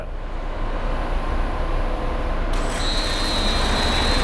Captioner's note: machine hovering